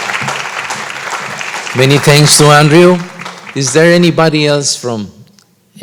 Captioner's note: applause